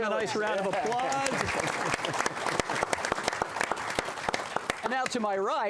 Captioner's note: applause